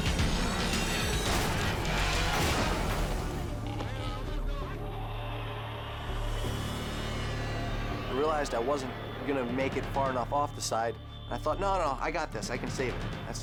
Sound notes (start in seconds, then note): 0.9 tense dramatic music; 3.6 crowd shouting